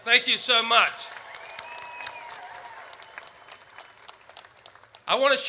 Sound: audience cheers

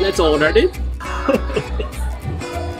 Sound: laughs

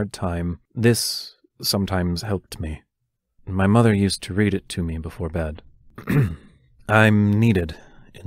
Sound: clears throat again

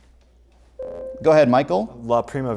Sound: buzzer

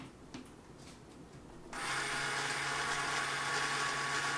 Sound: motor

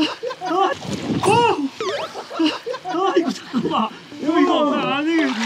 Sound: wriggle

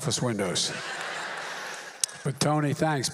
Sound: laughter

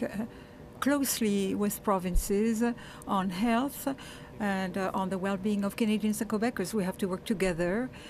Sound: speaking French

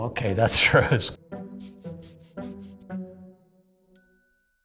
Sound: chuckles

